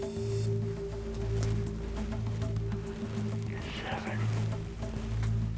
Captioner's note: whispering